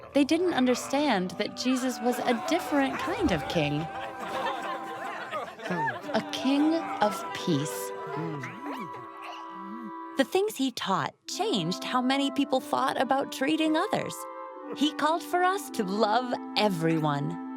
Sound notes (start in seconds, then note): 7.6 crowd chatter; 8.3 caterpillar noises